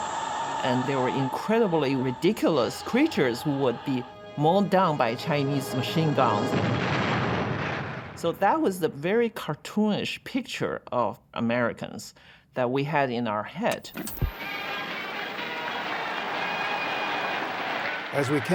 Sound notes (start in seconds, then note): 6.3 explosion roars; 14.3 crowd cheering and applauding